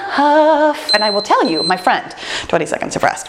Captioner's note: timer beeping